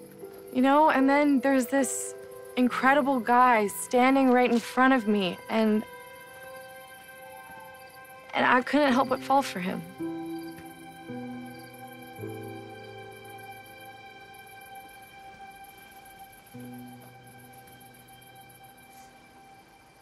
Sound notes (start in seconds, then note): none